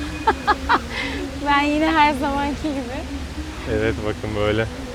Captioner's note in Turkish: kahkaha